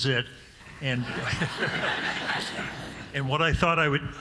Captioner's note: audience laughing